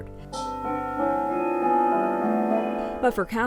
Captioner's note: clock bells chiming